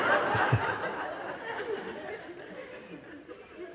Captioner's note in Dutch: gelach